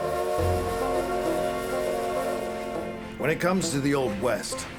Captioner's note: train whistle